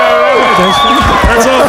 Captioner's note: audience cheers